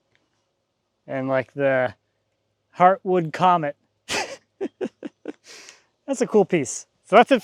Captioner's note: laughs